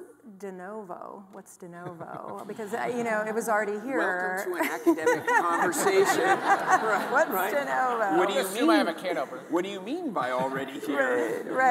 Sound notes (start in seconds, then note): 1.9 all chuckling; 6.2 all laughing